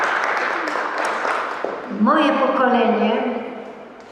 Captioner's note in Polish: Aplauz